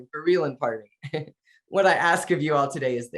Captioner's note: chuckling